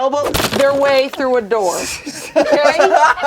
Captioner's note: crunch sound; laughs